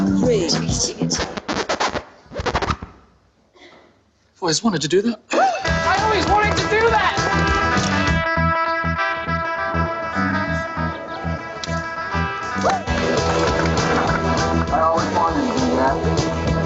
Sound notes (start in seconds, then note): 0.0 disc scratching; 8.0 dramatic music; 16.4 dramatic music